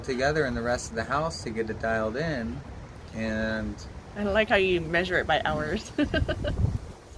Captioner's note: laughs